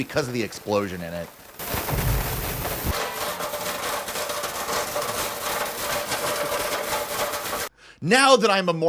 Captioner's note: explosion